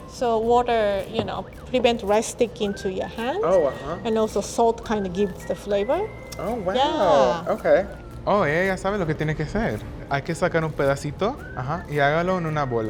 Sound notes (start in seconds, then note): 8.0 speaking Spanish